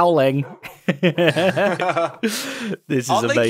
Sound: BOTH laugh

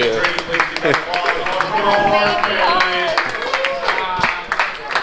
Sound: ship crew applauding

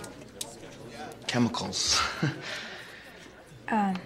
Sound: laughs

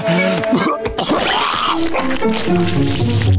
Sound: giggling; coughing

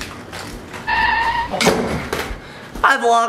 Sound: car brakes sound

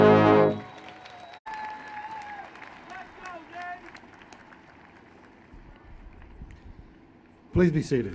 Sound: applause

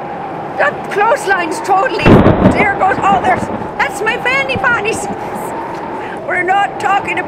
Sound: thunder

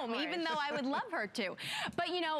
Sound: laughter

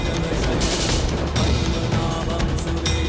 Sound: thundering

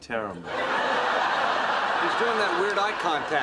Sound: audience laughter

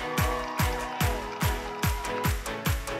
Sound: cheering

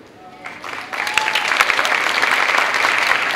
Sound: clapping

